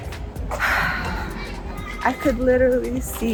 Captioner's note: exhales